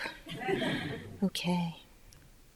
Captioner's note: audience laughing